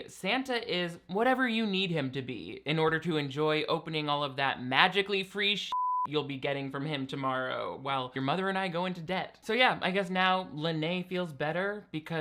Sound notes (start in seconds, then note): 5.7 beep